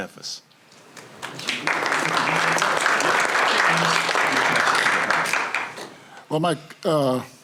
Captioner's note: applause